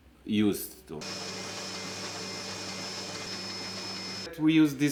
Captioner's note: machine whirring